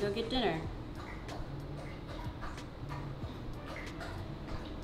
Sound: dog slurps water

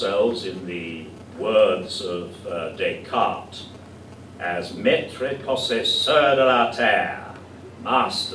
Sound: speaking french

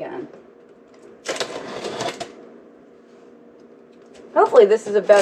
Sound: paper crumpling

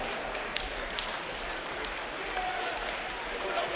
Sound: crowds cheer

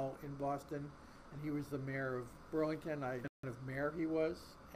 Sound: voice muffled

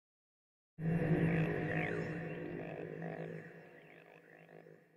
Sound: electronic droning

